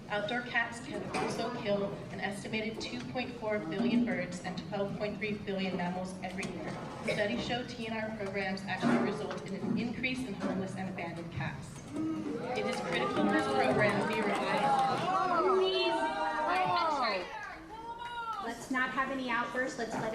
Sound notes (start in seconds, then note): 12.2 audience boos; 15.8 overlapping chattering